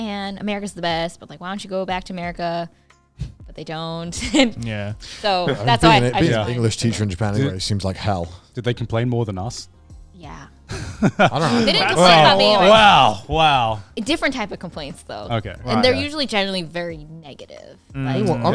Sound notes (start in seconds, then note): 5.1 laughs; 10.7 laughing